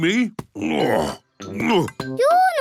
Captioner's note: grunts